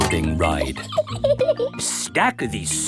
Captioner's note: laughs